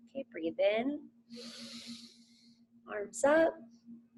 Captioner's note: inhales heavily